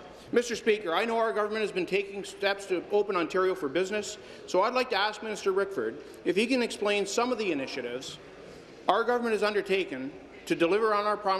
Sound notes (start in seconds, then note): none